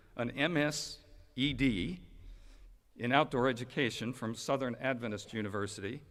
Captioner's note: none